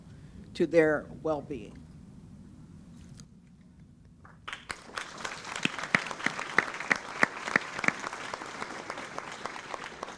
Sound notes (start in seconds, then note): 4.4 audience applauds